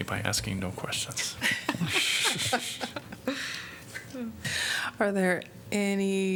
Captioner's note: laughter